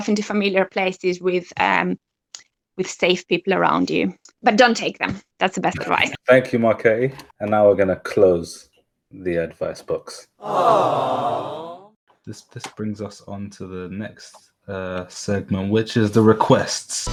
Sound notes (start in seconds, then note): 12.2 disappointed sounds; 16.9 voice echoes